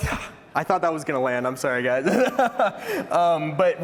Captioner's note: laughter